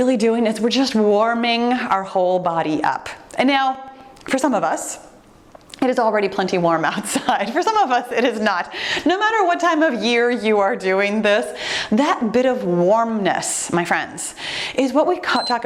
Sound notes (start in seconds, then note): 7.0 giggling; 15.2 timer beeps